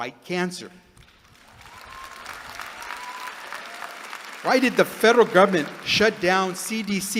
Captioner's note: applause